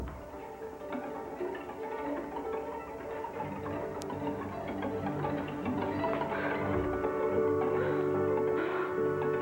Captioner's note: footsteps